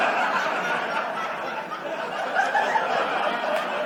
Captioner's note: audience laughs